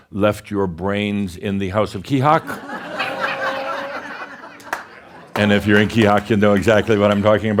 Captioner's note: laughter